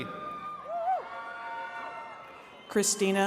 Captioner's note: attendees cheering